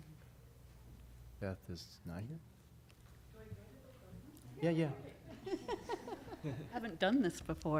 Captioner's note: laughter